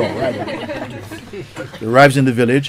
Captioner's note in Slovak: Smiech